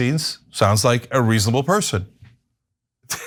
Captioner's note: laugh